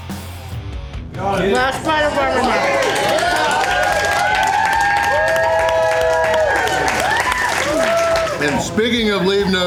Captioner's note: crowd clapping and cheering